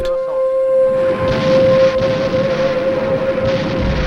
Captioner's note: tanks booming